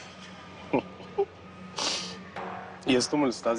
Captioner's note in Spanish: Risas